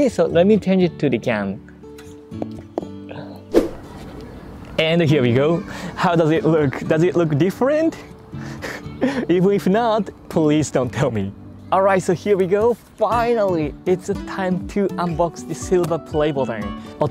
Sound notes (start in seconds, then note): 8.6 chuckles